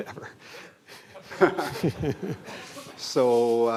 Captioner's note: laughter